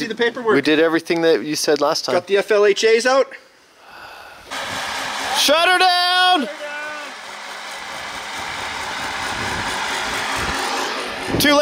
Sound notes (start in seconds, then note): 4.0 huffing; 8.3 machine engine roaring